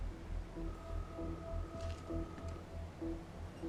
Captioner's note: line ringing